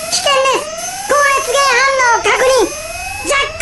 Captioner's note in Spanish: sonido de alarma